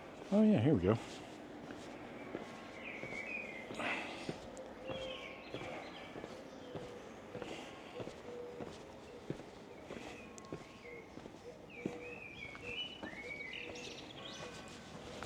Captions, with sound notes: Oh yeah, here we go. (birds chirping)